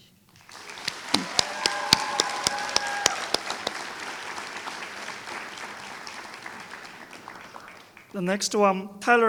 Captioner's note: applause